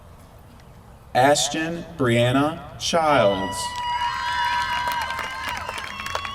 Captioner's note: applause